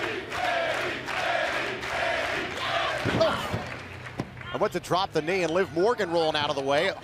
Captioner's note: fans chanting